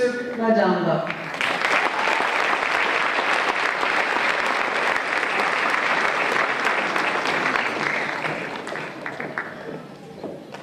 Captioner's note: applause